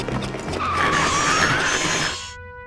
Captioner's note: hooves screeching; metal grinding